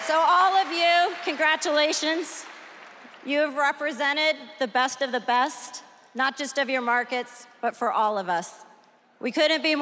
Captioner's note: cheers and applause